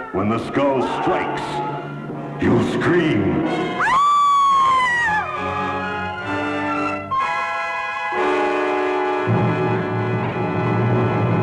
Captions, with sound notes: When the skull strikes, you scream. (screams)